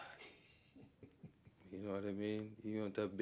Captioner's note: interviewer chuckles